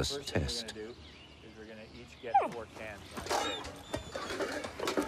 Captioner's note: people chattering